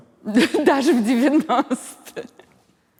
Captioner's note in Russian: смеясь